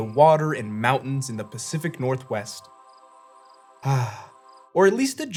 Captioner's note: sighs